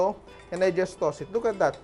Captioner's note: clink